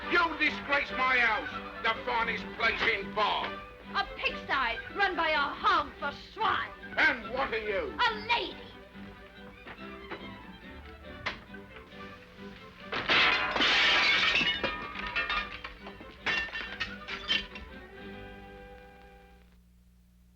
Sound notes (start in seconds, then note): 9.6 upbeat orchestral music; 12.8 window shatters